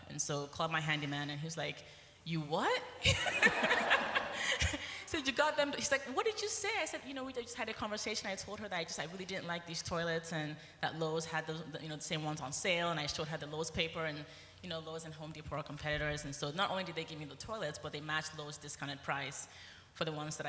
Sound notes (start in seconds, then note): 3.0 laughter